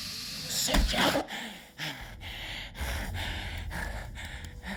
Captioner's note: Brooks gasping